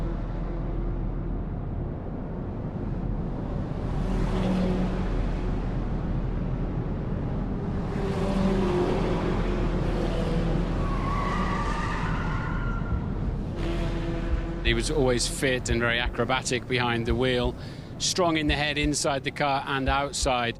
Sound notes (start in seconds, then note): 5.5 car engine roaring; 11.2 car tires screeching